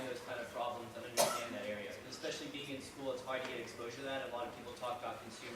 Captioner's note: coughing drowns out dialog